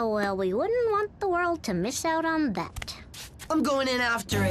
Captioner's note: sarcastically